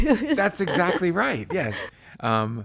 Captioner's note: laughs